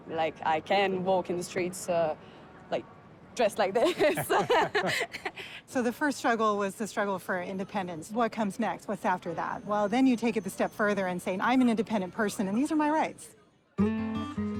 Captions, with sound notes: Like, I can walk in the streets, like, dressed like this. [ Both laugh ] So, the first struggle was the struggle for independence. What comes next? What's after that? Well, then you take it the step further and say, "I'm an independent person, and these are my rights.